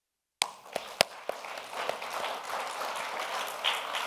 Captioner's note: audience applauds